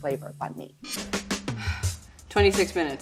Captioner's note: sighs